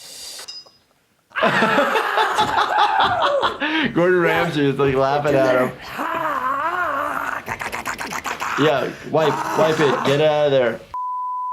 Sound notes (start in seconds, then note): 1.3 laughing; 5.8 Steve-O screaming; 8.0 Steve-O grunting